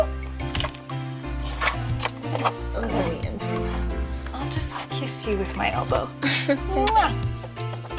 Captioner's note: muah